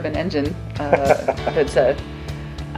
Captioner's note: laughs